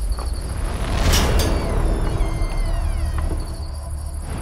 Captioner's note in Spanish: Chirrido de la puerta